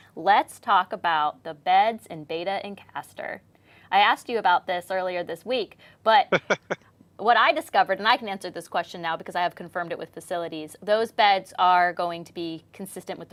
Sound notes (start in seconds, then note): 6.3 chuckles